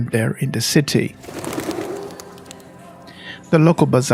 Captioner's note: birds' wings flapping